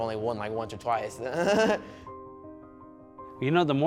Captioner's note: laughing